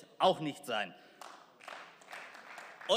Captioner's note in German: Beifall